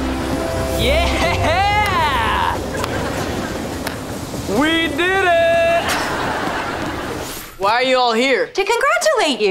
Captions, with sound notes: Yeah! [claps] We did it! Why are you all here? To congratulate you!